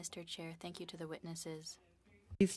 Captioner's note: speaking French